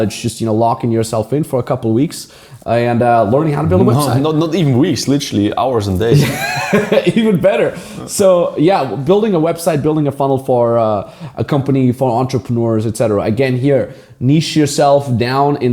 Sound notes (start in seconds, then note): 6.0 laughing